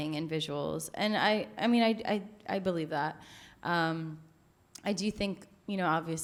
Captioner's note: stammers